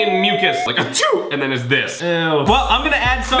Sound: alien music; fake sneeze

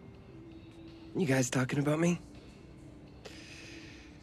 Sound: sighs

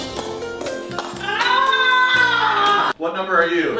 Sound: slow motion ahhhh

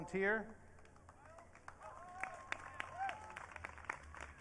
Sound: audience cheering

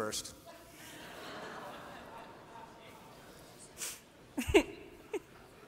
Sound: laughter

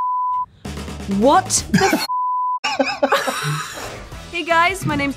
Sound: laughing

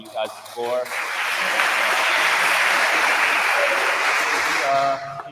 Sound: attendees applauding

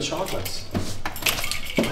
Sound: keys jingling

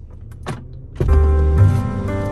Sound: car door thuds; soft piano music

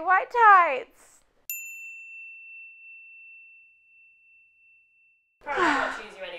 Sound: ding

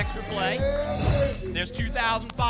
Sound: whoosh

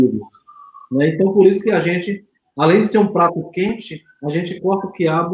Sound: speaks portuguese

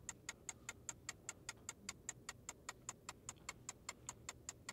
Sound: timer ticking

